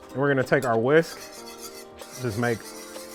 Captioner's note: whisking mixture